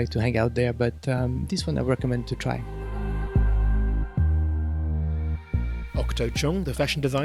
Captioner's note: voiceover